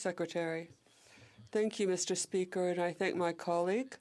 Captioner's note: speaking French